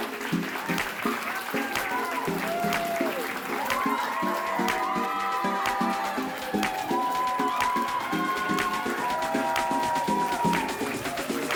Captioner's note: round of applause